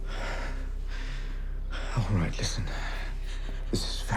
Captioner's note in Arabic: تنهدات